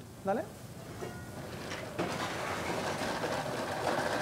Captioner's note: blender sounds